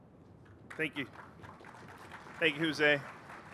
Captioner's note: applause